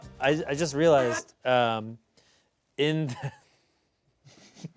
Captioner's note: laughing